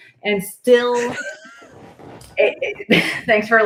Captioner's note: laughs